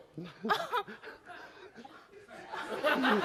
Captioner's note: laughs